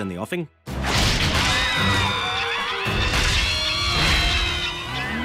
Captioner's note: indistinct screaming